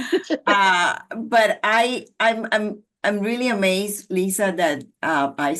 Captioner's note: laughter